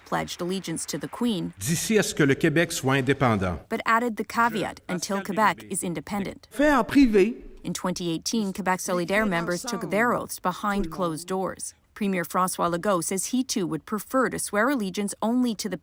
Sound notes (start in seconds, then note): 5.6 speaking French; 10.3 speaking French